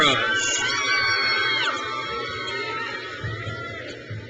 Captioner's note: crowd cheers